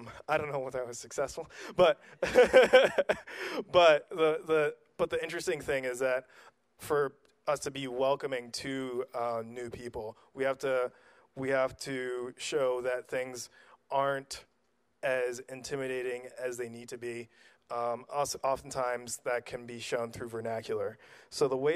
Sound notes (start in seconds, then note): 2.1 laughs loudly